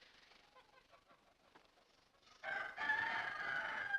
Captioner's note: rooster Crows